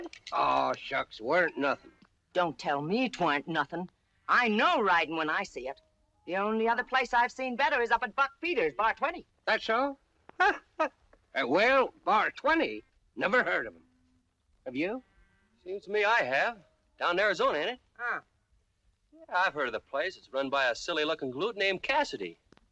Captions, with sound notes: Aw, shucks. Weren't nothing. Don't tell me it weren't nothing. I know riding when I see it. The only other place I've seen better is up at Buck Peters, Bar 20. That's so? [ GIGGLES ] Well, Bar 20? Never heard of them. Have you? Seems to me I have. Down in Arizona. Ah. I've heard of the place. It's run by a silly looking guy named Cassidy.